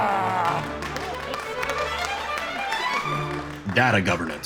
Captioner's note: crowd applauds